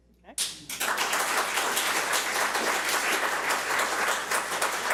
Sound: public applauding

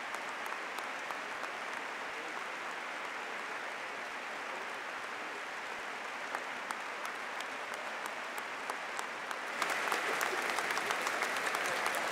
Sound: applause

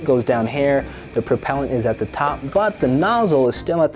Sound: can spraying

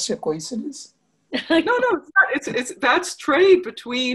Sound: laughing

